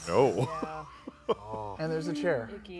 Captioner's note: laughs